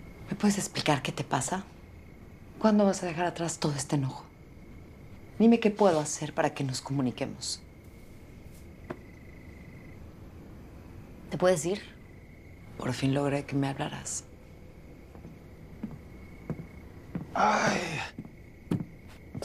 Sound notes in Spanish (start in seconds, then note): none